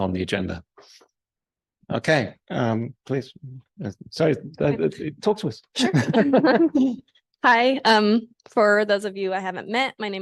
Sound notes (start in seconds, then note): 5.7 laugh